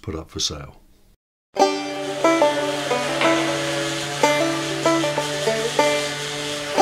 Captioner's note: bright upbeat music; grinder revving